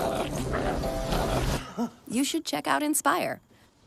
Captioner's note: man struggles